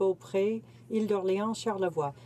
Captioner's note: speaking French